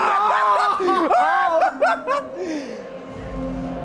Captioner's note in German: sie lachen